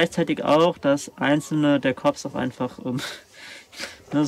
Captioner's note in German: lacht